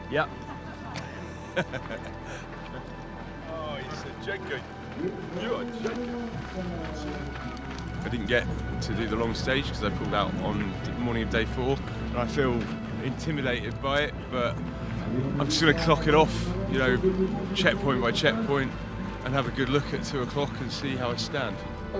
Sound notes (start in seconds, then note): 1.0 laughs